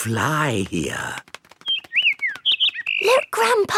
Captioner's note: bird